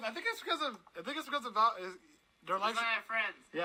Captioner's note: stammers